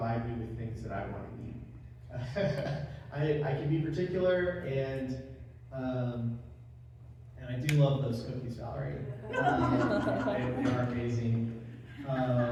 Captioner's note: laugh